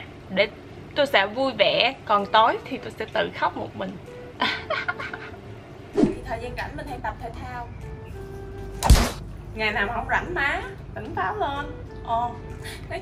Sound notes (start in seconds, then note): 8.8 slap